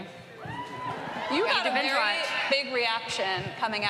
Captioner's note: cheering